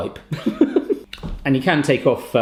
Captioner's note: laughs